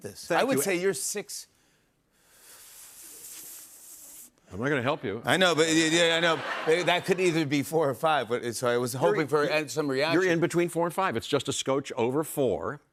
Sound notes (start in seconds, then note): 6.0 laughter